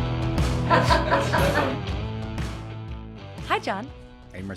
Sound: laughing

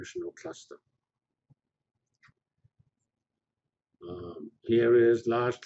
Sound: pause

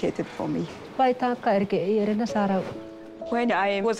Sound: speaking foreign language

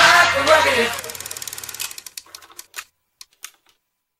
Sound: film reel clicking

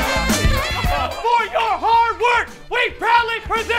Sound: yelling

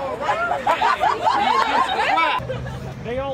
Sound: laughter

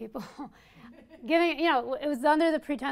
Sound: audience laughs

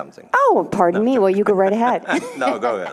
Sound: both laughing

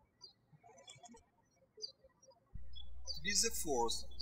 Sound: birds chirping

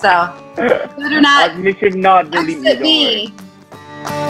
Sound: laughter

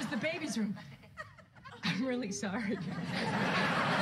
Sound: laugh

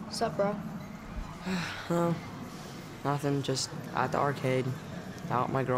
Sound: sighs

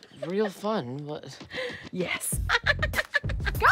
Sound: laughs

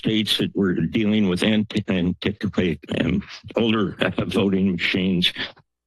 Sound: stutters

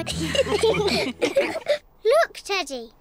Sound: all laughing

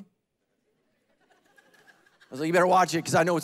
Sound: congregation laughing

